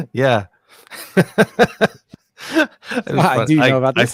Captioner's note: laughing